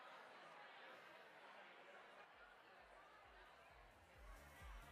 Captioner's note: audience murmuring